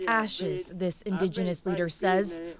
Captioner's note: speaking foreign language